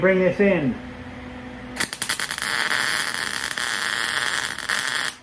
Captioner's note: buzzing